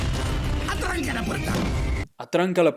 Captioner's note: speaking in Spanish